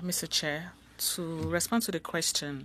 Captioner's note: speaking French